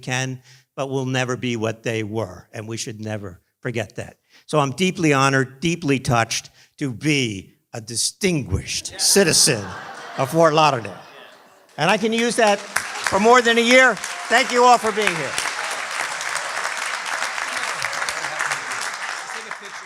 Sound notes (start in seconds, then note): 16.6 applause